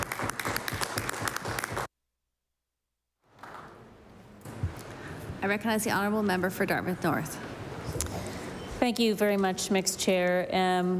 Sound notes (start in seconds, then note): 0.0 applause